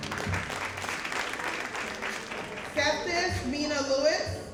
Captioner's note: audience applauding